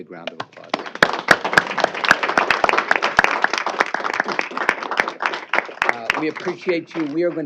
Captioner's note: applause